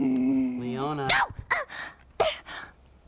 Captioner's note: yells